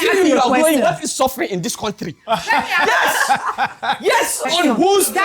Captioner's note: laughs